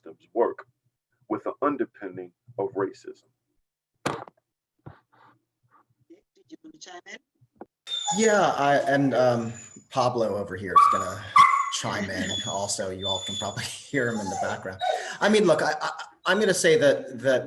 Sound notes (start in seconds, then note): 10.8 dog barking